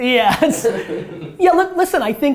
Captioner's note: laughter